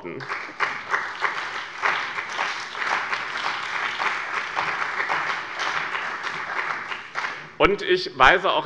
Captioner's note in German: Beifall bei dem BÜNDNIS 90/DIE GRÜNEN und der CDU